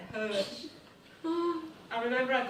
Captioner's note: worried sounding vocalisation from participant